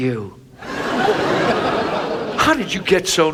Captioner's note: audience laughs